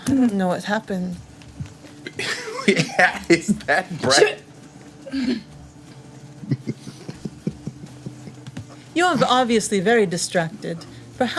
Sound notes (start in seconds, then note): 6.3 laughing